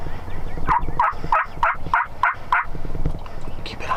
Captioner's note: bird squawks